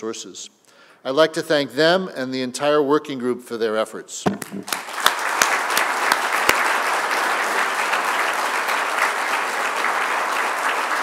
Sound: lead appplause

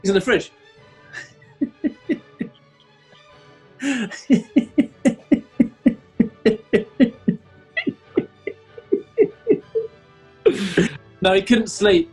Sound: giggling

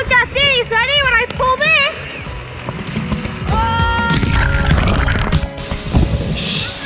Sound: water splashes

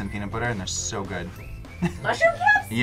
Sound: laughs

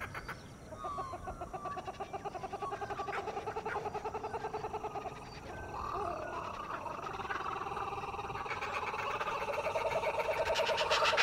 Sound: kookaburra chattering

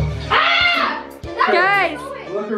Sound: screaming

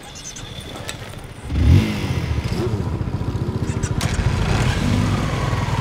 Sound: revs engine

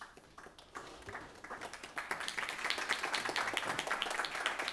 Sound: applauding

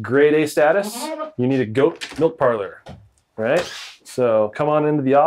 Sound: door clicks

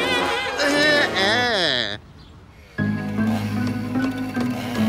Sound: spitting; groaning; chainsaw running

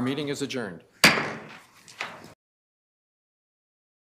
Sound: gavel bangs

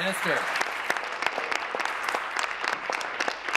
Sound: applause

